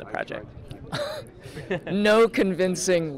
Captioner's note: laughs